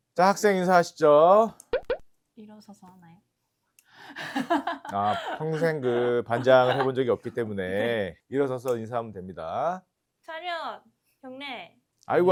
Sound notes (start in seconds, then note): 4.1 laughter